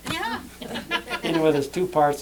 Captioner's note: laughter